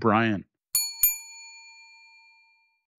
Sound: bell dings

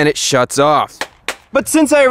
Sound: clap

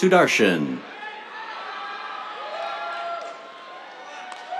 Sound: cheers, applause

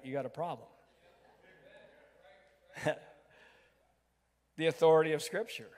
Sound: crowd

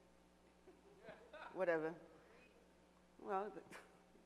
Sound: audience member laughs

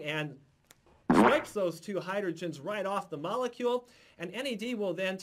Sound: boink!

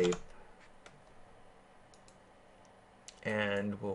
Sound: keyboarding

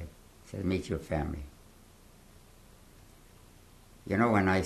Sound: pauses for 3 seconds

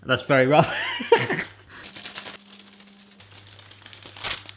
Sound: laughs

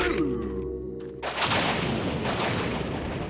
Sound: thunder

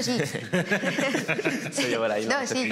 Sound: they all laugh

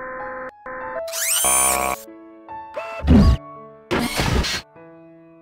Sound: whirring, Machine Humming

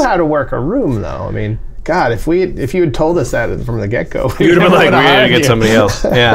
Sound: laughter

